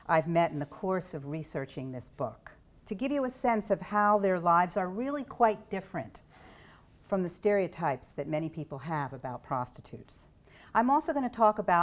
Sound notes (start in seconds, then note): none